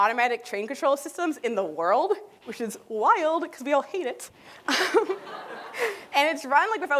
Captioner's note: laughter